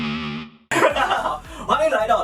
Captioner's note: laughter